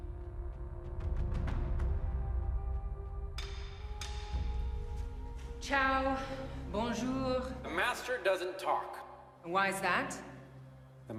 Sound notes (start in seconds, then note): 5.7 Maeve speaking foreign languages